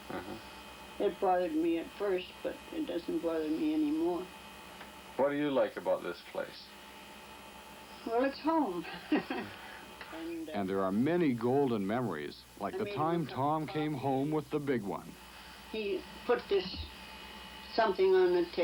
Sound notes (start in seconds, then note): 8.9 laughing